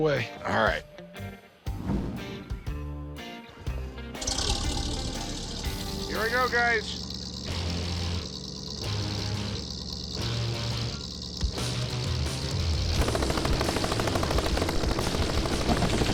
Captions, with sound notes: Alright. [motor whirring] Here we go, guys. [heavy metal music plays]